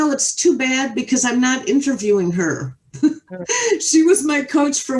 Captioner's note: chuckles